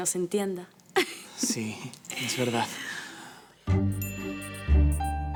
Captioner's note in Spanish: Risas